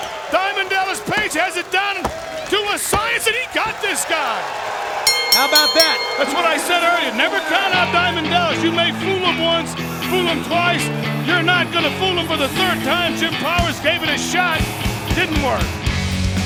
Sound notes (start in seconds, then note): 5.0 bell rings